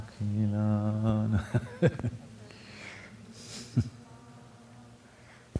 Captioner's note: laughs